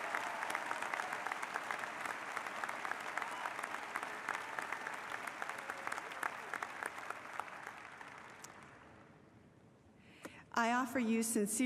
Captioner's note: applause